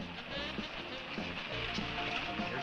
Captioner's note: engine rumbling